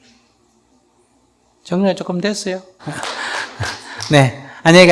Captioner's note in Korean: 스님/청중 웃음